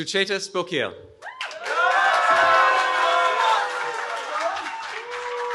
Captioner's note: cheering